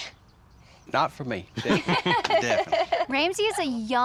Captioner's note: everybody laughs